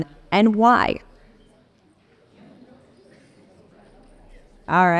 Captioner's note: people chattering